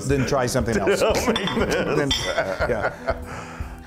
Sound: laugh

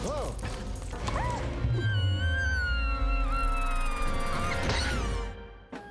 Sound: Rufus squeals

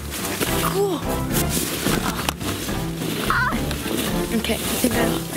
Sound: gasps

